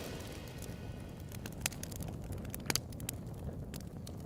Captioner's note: fire crackling